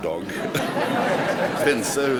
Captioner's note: laughter